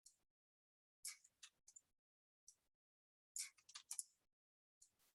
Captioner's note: mouse clicking